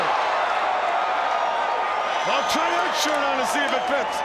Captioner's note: crowd cheering